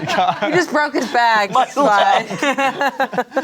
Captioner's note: laughs